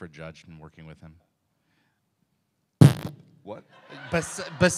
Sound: fart sound

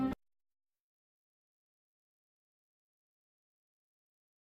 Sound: silence

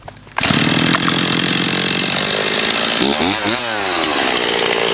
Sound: chainsaw roaring

